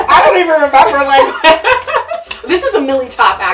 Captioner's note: laughs